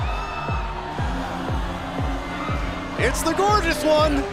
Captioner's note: crowd cheering